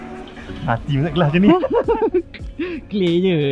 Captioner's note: laugh